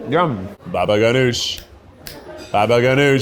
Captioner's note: snaps fingers